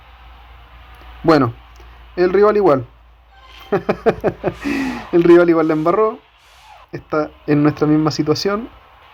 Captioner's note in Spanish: risas